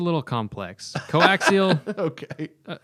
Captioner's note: laughter